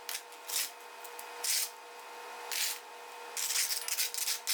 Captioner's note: scoop scraping